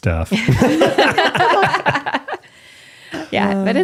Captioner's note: all laughing